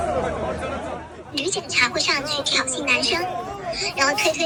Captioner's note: A witness with her voice altered